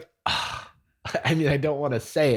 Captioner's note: sighs